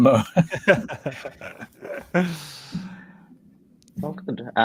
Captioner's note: chuckle